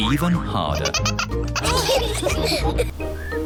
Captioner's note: all laugh